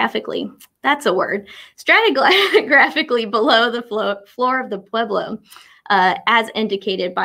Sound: laughs

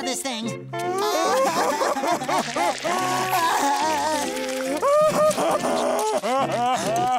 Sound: crying

